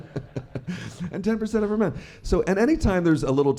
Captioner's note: laughter